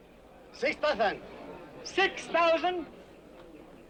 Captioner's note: none